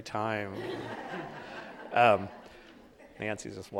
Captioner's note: audience laughing